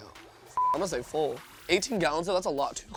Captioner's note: beep